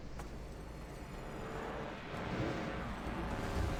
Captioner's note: none